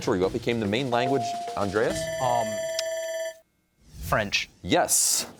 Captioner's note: bell rings